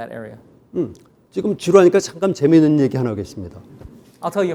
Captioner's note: speaking in Korean